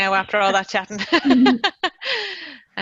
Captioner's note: laughs